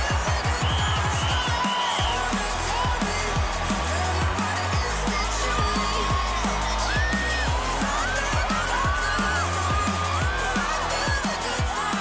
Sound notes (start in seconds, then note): 0.5 whistle blowing; 6.0 cheering